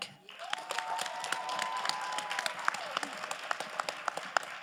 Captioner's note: crowd applauding